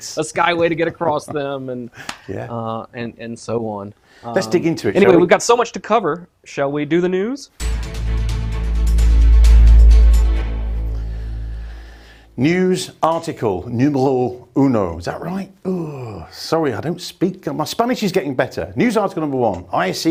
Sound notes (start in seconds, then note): 7.6 upbeat music; 13.5 speaks in foreign language